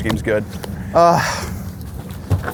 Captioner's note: gasps